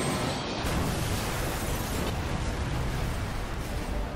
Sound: explosion blasts

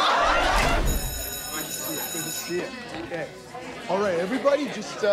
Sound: school bell ringing

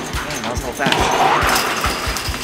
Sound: boing; singing

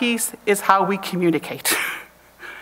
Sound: chuckles

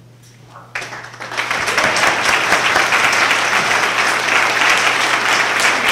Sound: applause

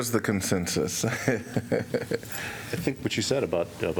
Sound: laughter

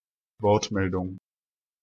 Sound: fast Pronunciation

